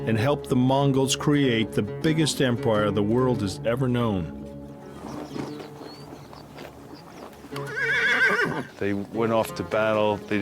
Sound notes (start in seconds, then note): 7.9 horse neighing